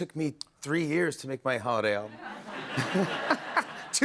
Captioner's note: laughter